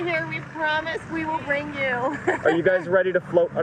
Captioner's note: chuckling